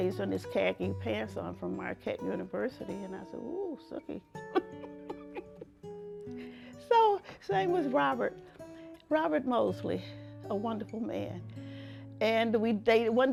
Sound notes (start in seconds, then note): 4.5 giggles